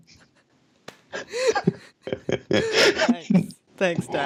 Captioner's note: both laughing